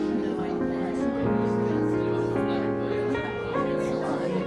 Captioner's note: lively crowd chatter